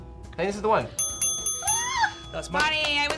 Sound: bell dings

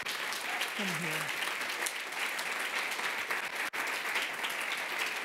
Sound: applause

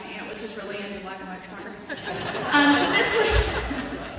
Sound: laughter

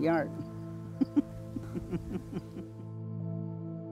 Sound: laughs

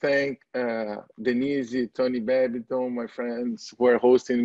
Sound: foreign language

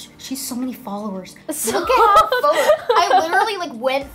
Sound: laughs

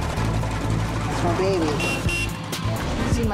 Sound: honks horn

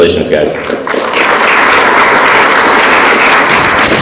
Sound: audience applauds

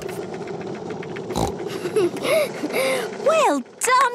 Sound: giggles, snorts

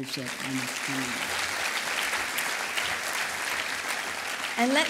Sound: applause

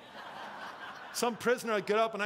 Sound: congregation laughing

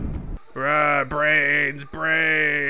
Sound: whoosh; groans

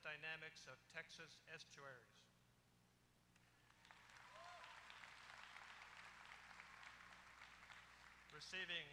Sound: applause

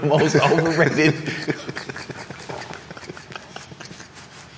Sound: laughs

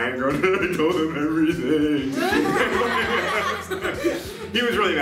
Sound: laughing

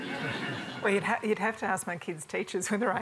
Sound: chuckling

